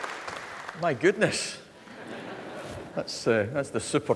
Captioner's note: laughter